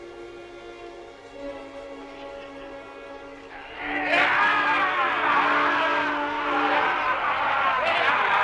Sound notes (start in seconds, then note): 3.5 chieftains cheering